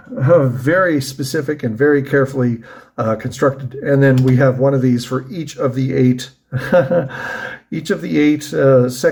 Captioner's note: ha ha